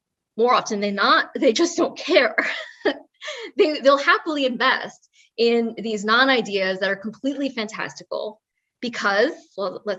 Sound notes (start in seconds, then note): 2.7 laugh